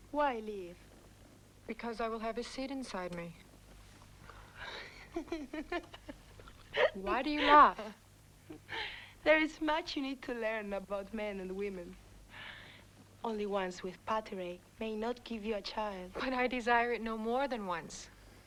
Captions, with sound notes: - Why leave? - Because I will have his seed inside me. (Tracima laughs) Why do you laugh? - There is much you need to learn about men and women. Only once with pateray may not give you a child. - But I desire it no more than once.